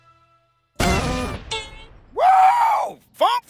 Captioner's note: sound effect